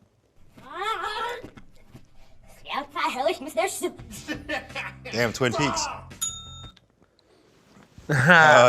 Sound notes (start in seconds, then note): 1.0 speaking in reverse; 4.1 laughs; 6.2 bell dings